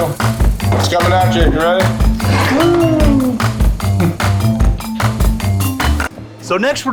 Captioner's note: exclaims